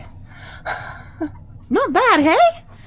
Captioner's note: speaker laughs